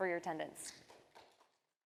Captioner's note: audience applauds